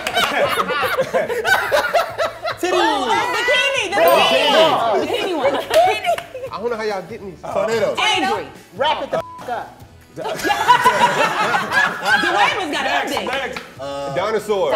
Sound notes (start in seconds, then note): 0.0 they laugh; 10.2 they laugh